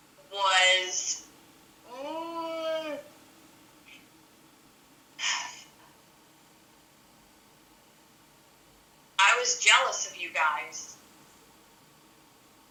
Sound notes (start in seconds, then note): 4.9 sighs